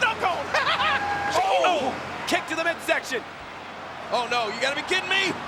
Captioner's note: laugh